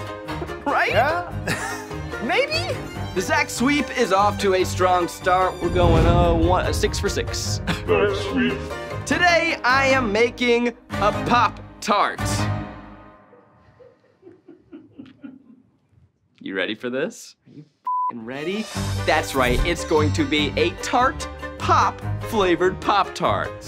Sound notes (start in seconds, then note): 17.9 beep